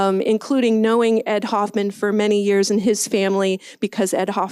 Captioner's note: none